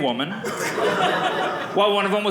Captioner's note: audience laughing